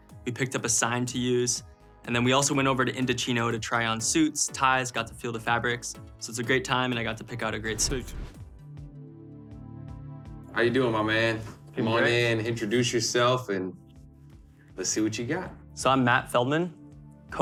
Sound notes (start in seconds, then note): 7.6 air whooshing; 9.5 gentle music begins